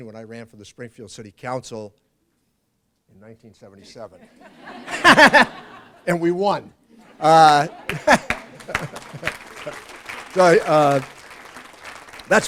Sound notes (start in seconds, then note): 7.0 laughs; 7.2 applause